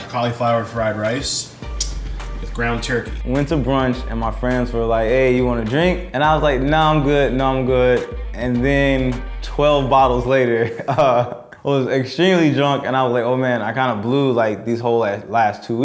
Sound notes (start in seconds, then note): 10.5 chuckles